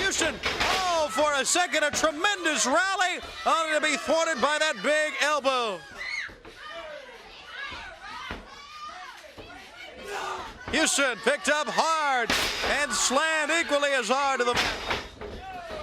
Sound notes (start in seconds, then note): 9.3 crowd chatter